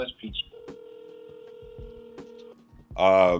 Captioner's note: phone ringing